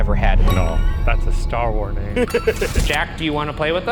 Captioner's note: laughs